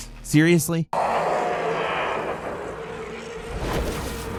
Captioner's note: Z roaring; suspenseful music; spell whooshing